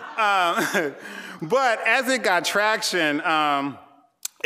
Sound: chuckling

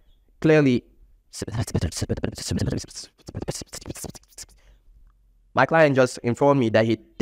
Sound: whispers

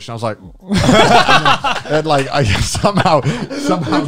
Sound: laugh

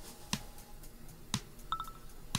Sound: text tone

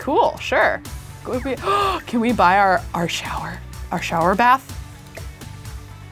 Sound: gasps

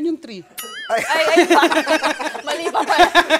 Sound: laughter; laughs

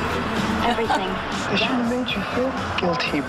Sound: chuckles

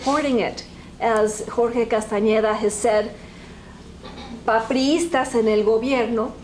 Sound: spanish

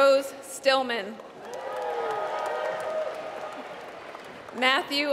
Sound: applause

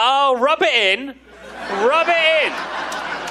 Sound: audience laughing

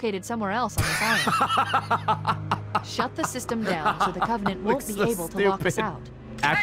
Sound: laughs

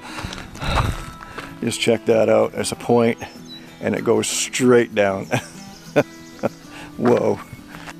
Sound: chuckles

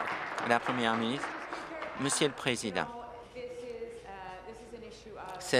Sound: applause

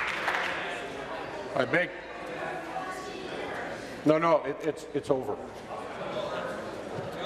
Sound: applause

